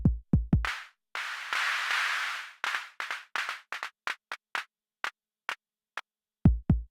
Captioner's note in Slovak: Applause